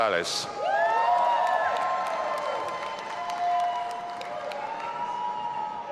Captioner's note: audience applauding and cheering